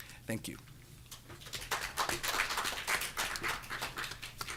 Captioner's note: audience clapping